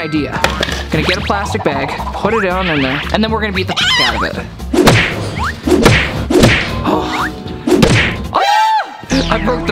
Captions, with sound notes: I have an idea. I'm gonna get a plastic bag, put it down in there, and then we're gonna beat the (beep) out of it. (hammer banging)